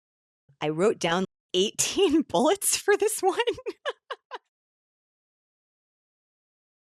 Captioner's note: laughing